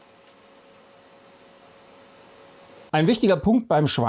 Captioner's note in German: Lüftergeräusch